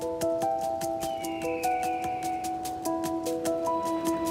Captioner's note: bright pensive music; bird squawks